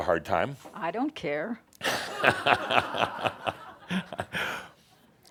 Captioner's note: laughter